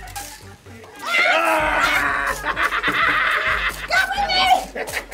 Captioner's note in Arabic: كلاهما يصرخ